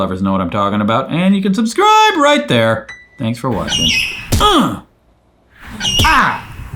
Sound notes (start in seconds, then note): 4.4 grunts